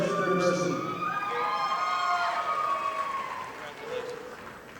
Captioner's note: audience applauding